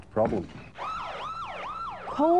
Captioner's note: police siren wailing